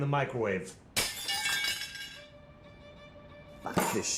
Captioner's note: glass shattering